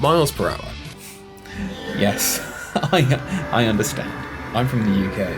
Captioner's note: muffled laughter over screaming